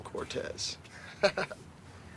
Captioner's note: chuckles